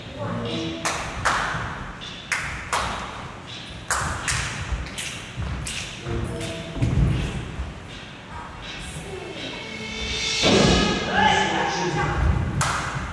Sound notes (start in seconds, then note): 2.6 clap, clap; 5.0 finger snaps; 10.2 trumpet blares